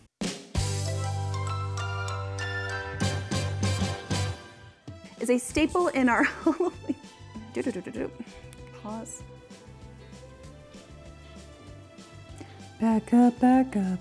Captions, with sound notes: (upbeat music) Is a staple in our- (laughs) Pause, back up, back up, back up real slow.